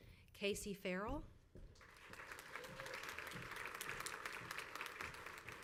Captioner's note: crowd applauds